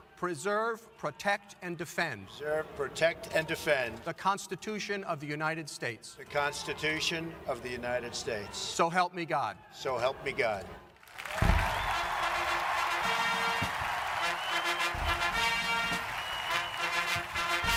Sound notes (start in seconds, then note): 10.9 audience claps and cheers; 11.8 ceremonial band music